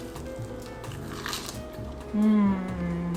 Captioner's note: crunches